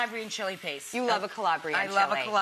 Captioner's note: food sizzling